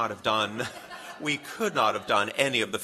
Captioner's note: laughter